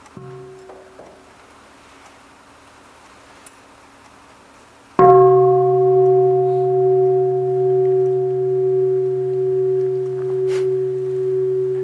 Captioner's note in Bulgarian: Звън на звънец